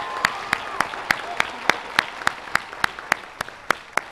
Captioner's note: applause